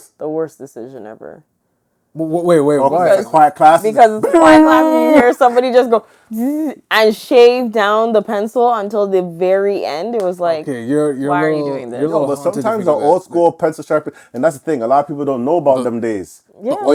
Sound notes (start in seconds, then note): 6.3 buzzing noise